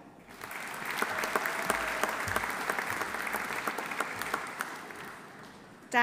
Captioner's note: audience applauding; audience cheering